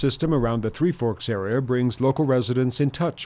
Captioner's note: voiceover